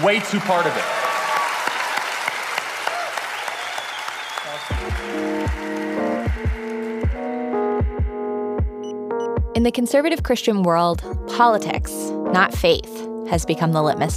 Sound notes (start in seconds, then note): 1.7 applause and cheering